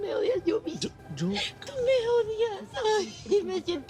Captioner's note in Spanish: Sollozos